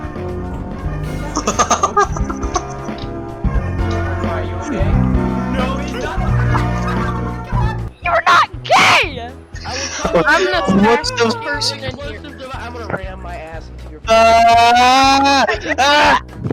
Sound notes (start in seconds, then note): 9.6 audible shock